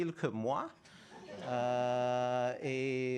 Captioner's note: laughter